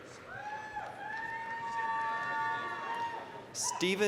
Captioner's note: applause, cheering